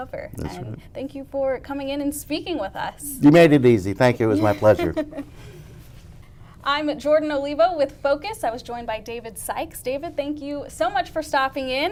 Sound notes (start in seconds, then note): 4.3 laughing